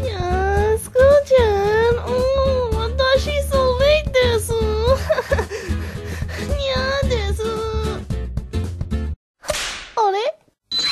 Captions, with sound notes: nyaaaa, school-chaaaaan! oohhhhh watashi sooo late desu! haha [panting] nyaaa desu huh- あれ?